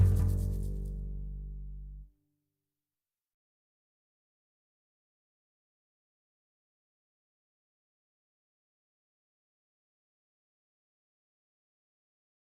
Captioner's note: silence